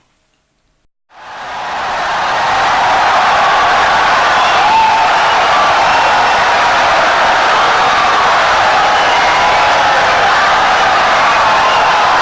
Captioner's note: wild applause and cheering for 17 seconds